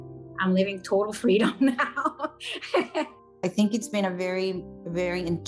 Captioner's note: laughing